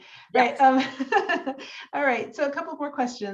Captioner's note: laughs